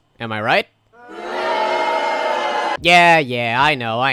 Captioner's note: crowd booing noises